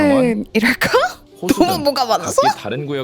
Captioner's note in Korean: 웃음